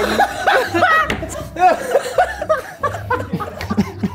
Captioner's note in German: Lachen